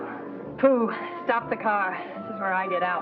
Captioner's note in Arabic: جوجو تتأوه